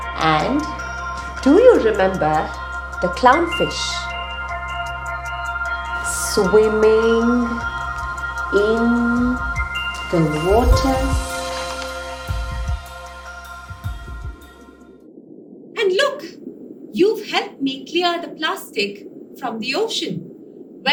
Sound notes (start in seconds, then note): 12.0 music fades; 14.0 underwater sounds